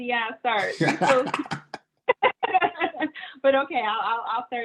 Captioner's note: laughing